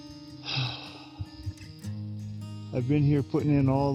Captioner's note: gentle music; sigh